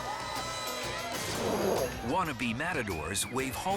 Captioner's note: spectators cheering; bull snarls